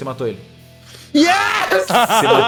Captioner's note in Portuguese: risada